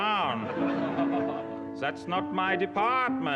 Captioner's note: crowd laughter